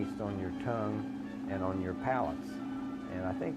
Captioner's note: machine whirring